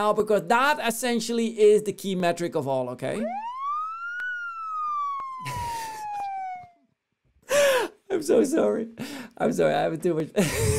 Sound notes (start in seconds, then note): 3.2 siren blaring; 5.4 laughing